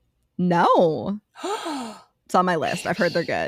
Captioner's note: both Gasp